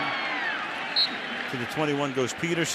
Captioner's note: cheering; whistle blows